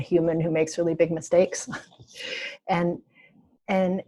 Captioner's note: laughing